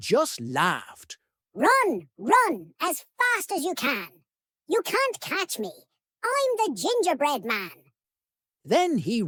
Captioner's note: high-pitched voice